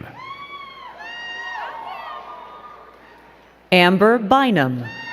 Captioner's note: crowd cheering and clapping